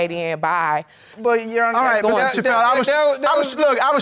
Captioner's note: stammers